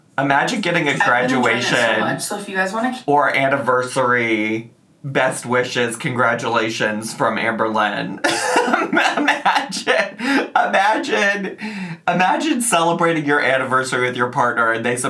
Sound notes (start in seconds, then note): 8.2 laughing